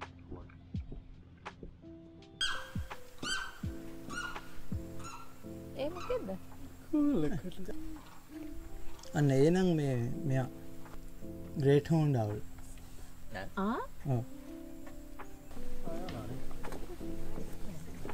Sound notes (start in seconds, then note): 2.4 limpkin calling; 7.5 Great Horned Owl calling